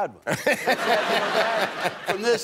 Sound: laughter

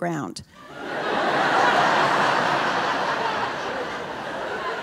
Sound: audience laughing

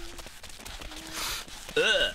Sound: sniff

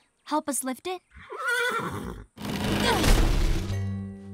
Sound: whinny

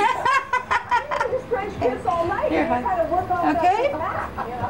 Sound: laughing

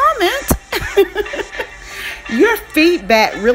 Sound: laughs

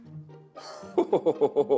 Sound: chuckles

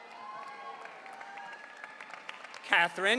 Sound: audience cheering

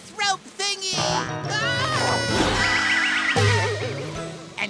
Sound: screaming

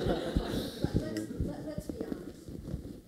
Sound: laughter

